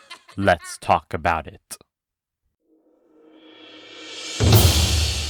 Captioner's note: evil goblinoid laugh